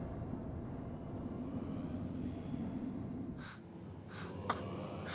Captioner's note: chanting